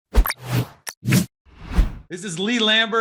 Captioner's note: energetic whooshing